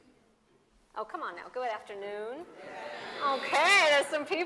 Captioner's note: crowd noise